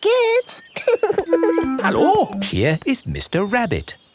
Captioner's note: laughing